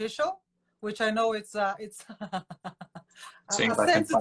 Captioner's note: laughing